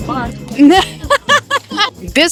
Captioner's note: laughter